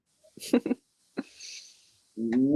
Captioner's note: chuckles